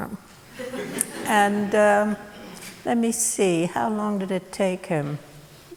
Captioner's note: laughter